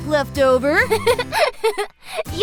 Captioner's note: chuckles